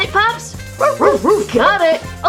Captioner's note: barking